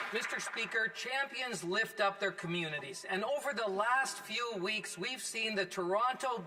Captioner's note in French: voix de l'interprète